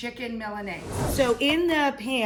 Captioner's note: whooshing sound